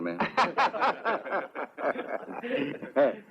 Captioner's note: all laugh